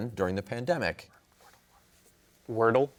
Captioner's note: whispers